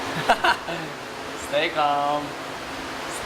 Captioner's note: laughs